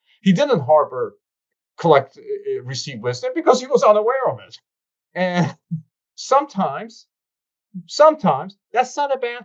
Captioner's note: laughs